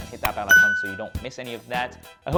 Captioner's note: bell dings